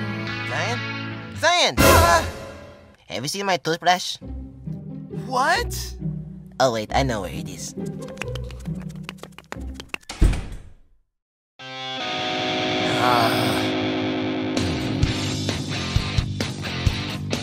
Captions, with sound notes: Zion. ZION! AH! Have you seen my toothbrush? What?! Oh wait. I know where it is. Raymon pitter-patter (Door close) (Groan)